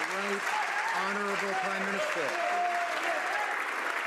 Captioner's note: some Applause